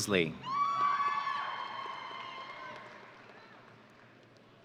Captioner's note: audience cheering